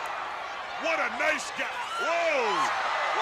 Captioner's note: crowd cheering